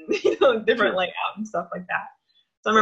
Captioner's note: laughs